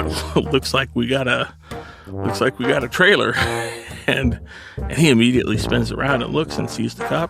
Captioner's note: laughs